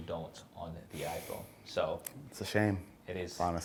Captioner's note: sighs